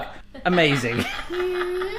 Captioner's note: laughing